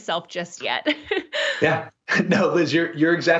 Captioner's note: chuckles